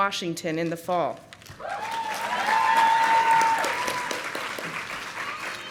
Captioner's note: audience applauding